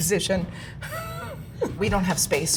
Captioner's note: chuckles